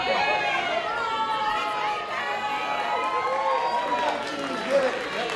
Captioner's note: cheering